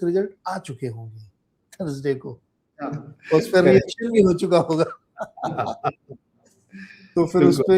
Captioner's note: laughter